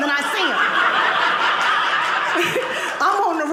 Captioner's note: audience laughing